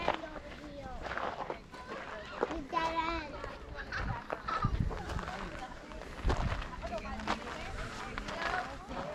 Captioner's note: children chattering